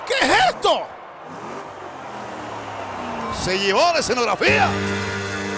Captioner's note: applause